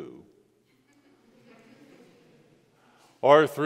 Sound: congregation laughs

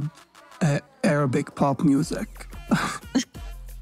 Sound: laughs

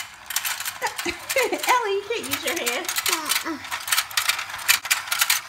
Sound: voiceover

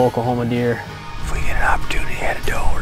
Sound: man Whispering

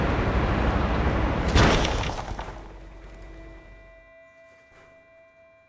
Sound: loud crashing sound

